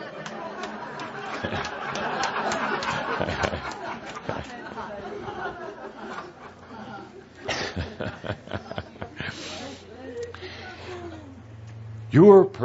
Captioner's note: lots of laughter, chuckling